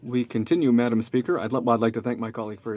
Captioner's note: speaking french